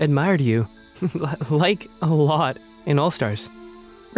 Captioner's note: chuckling